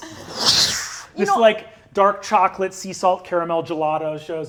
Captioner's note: whooshes